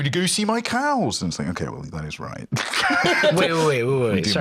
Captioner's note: laughs